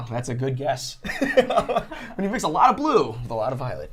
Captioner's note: laughter